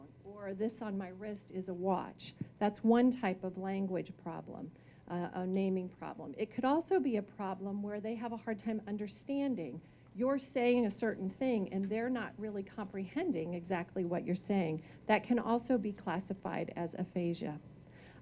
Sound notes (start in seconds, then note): none